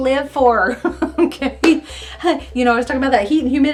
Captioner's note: laughing